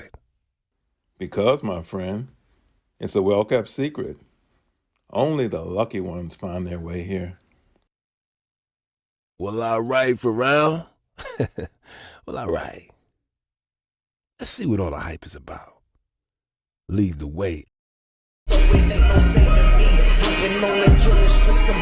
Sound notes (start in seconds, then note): 11.2 laughing